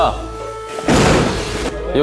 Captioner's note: thud